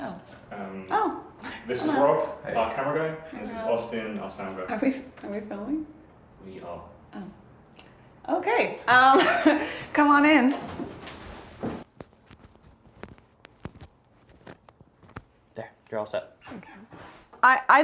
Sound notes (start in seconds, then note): 1.3 chuckles; 8.7 chuckles nervously